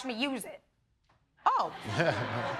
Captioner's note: laughs